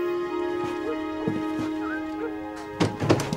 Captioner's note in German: Entferntes Bellen